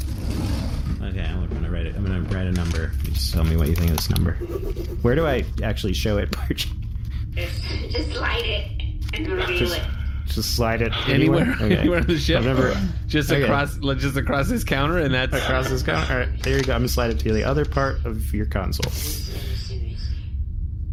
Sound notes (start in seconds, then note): 0.0 quietly; 4.2 scribbles